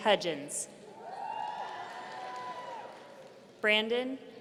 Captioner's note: audience cheering